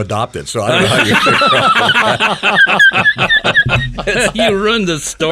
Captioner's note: planters laugh